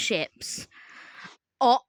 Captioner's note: slow inhale